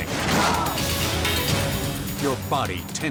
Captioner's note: body slams